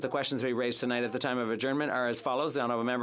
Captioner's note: speaking French